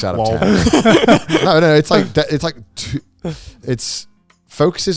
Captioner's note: laughing